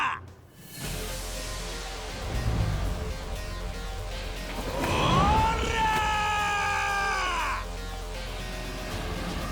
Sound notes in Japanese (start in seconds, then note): 4.8 叫び声